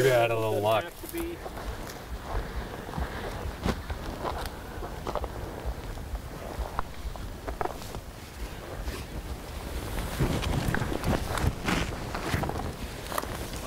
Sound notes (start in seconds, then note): 2.9 footsteps